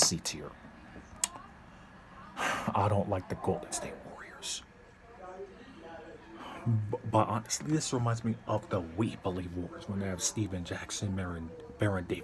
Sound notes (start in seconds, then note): 1.4 sighs